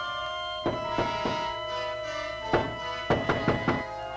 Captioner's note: knocking